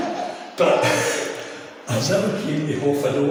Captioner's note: laughing